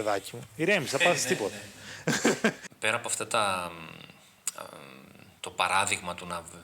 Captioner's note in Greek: γέλια